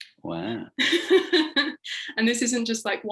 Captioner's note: laughing